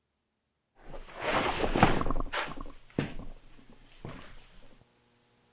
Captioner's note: cloth rustling